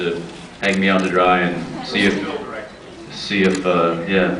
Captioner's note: off mic